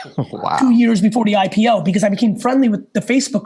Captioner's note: chuckles